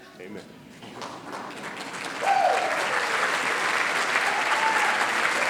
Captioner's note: applause